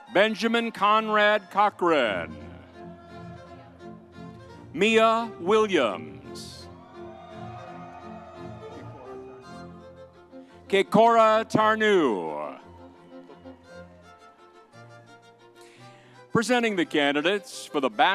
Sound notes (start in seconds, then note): 2.9 upbeat music continues; 6.5 upbeat music continues; 6.7 audience cheers; 13.0 upbeat music continues